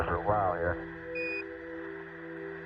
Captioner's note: device beeps